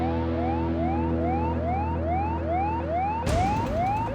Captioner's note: siren wails